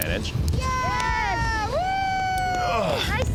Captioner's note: crowd cheering